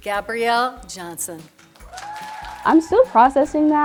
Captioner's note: people clapping